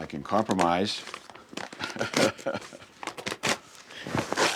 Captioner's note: laughs